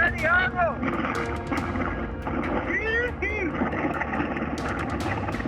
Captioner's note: mariner cheering